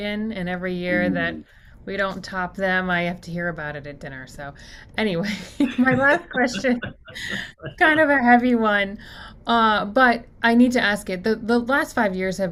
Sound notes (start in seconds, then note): 5.3 both laugh